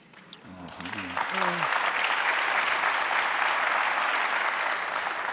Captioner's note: audience applauding